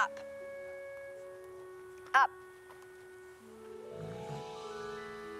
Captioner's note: tiger growling